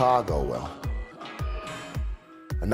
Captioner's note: none